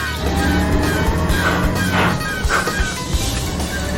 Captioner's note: gears grinding